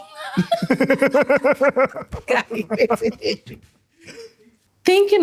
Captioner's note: laughter